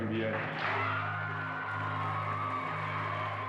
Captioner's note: loud applause